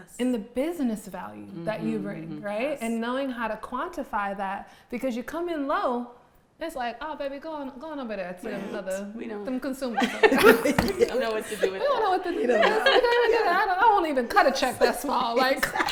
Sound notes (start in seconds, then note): 9.9 all laughing; 10.5 hand banging on table; 15.7 all laughing